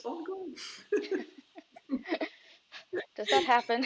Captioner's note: all chuckles